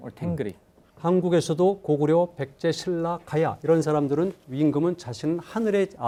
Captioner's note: speaking in Korean